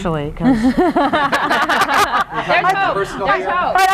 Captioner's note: laughter